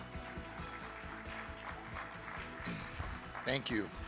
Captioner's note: audience applaud